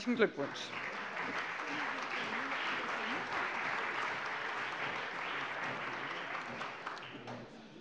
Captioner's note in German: Beifall